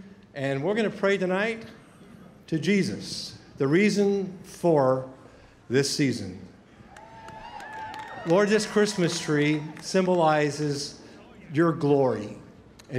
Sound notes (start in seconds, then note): 6.8 scattered cheering